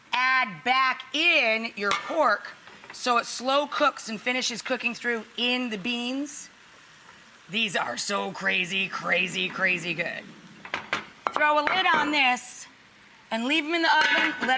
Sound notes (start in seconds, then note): none